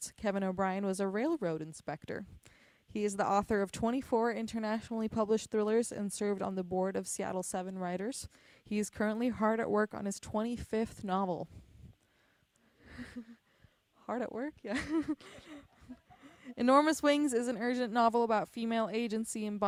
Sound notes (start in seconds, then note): 14.7 chuckles